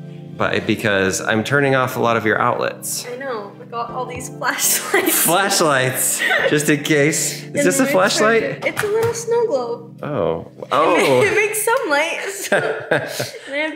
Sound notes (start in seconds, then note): 6.2 chuckles